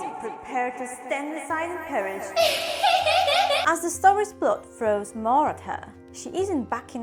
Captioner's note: laugh